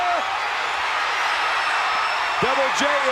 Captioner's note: audience cheering